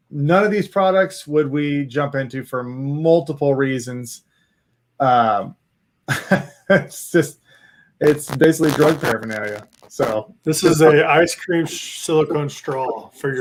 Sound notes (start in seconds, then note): 6.1 laughing